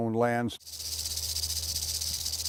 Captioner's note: rattling